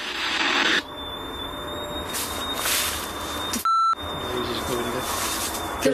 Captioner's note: energy detector device beeping and whistling